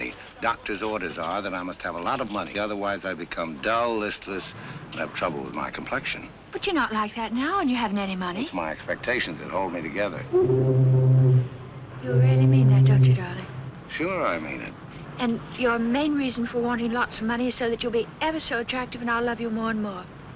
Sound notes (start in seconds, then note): 10.3 ships Horn